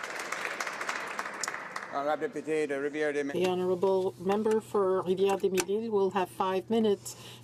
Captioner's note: applause